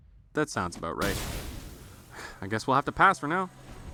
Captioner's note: sigh